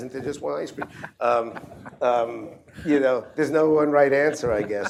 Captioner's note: laughter